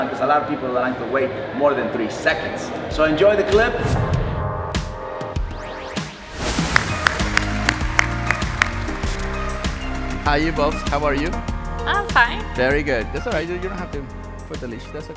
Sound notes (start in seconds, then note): 4.2 energetic music; 6.6 claps hands